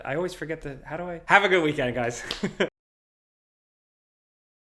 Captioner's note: laughs